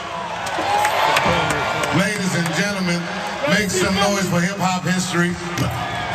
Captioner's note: applause